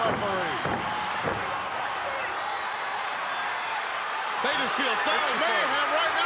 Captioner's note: crowd shouting